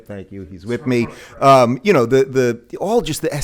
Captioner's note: talking in background